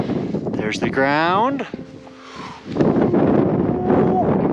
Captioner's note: wind blowing